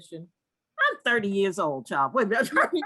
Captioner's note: laugh